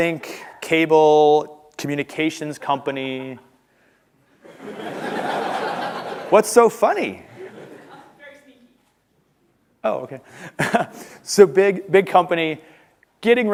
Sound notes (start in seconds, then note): 4.4 laughter